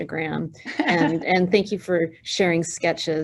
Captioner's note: chuckling